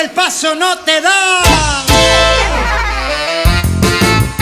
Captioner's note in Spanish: Risas; Música alegre